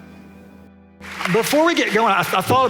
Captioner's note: applause